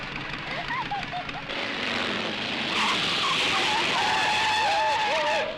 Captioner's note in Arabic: محرك الدراجة النارية يدور